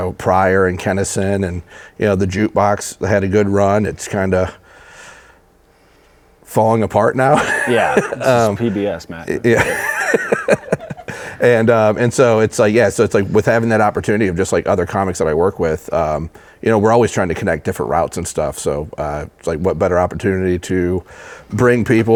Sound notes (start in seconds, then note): 7.3 laughs